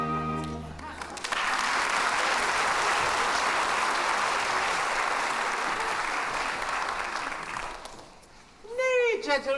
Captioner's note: applause